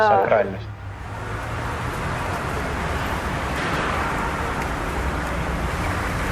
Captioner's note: traffic noises